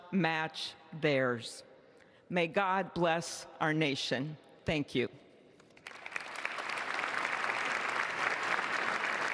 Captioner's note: applause